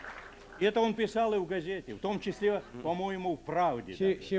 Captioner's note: non-english speech